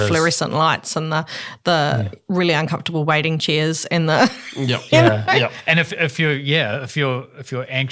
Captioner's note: laughs